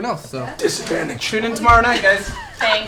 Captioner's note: hoarsely